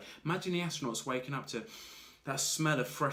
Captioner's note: inhales